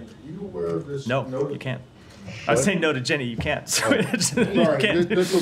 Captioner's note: laughter